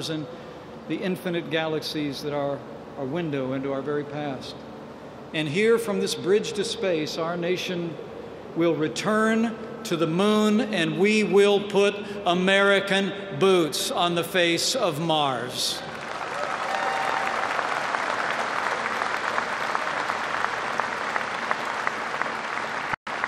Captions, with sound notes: and the infinite galaxies that are a window into our very past. And from this "Bridge to Space," our nation will return to the Moon, and we will put American boots on the face of Mars. (Applause.) My friends, the missions that began at the Kennedy